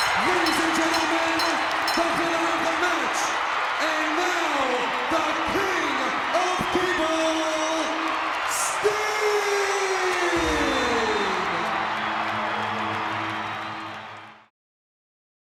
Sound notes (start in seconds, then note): 11.4 crowd cheering; 11.4 upbeat music